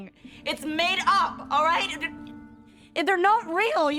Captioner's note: stutters